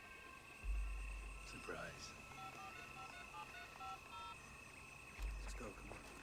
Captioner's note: phone Dialing